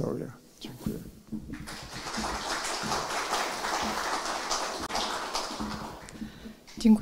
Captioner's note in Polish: oklaski